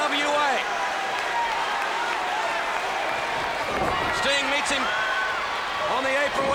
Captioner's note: applause